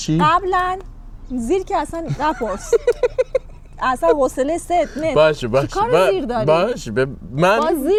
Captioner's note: laughs